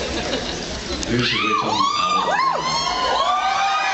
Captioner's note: audience laughs; audience screams